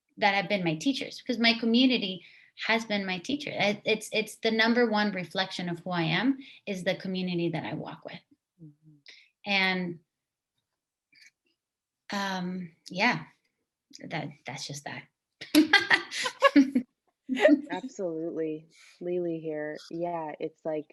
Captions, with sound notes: have been my teachers, because my community has been my teacher. it's the number one reflection of who i am is the community that i walk with. And so... yeah. that's just that. (laughter) - absolutely. Leelee here, yeah it's like